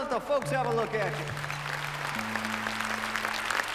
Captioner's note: audience applauding; tuning strings